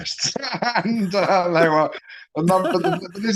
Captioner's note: laughs